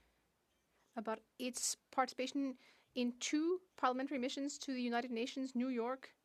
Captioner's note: speaking French